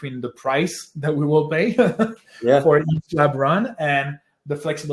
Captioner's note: laughs